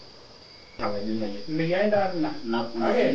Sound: speaking Maa

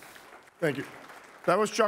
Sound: applause

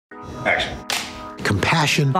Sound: soft music; clapperboard clicks

